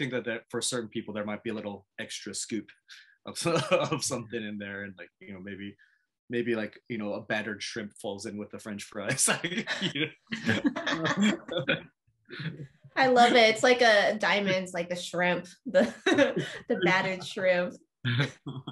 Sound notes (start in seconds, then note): 10.3 laughter